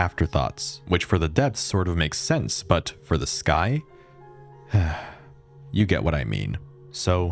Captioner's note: sigh